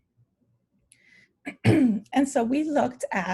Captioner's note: clears throat